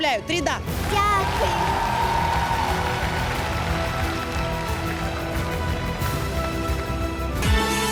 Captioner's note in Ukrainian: оплески